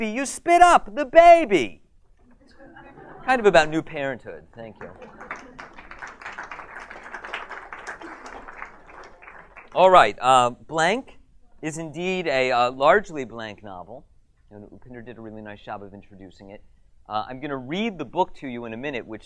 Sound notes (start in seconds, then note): 2.4 audience laughs; 4.7 applause